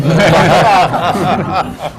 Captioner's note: laughter